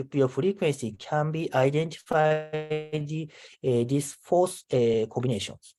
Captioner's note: audio glitches